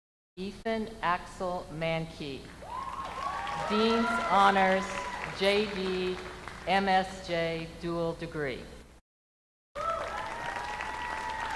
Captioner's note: names being called